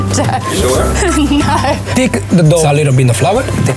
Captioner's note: laughs